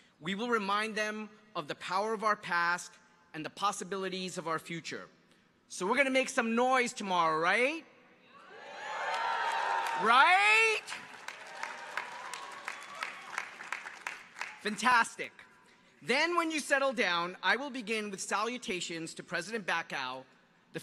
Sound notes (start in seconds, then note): 8.4 crowd cheering; 11.8 audience applauding